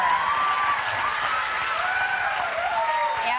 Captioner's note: cheers and applause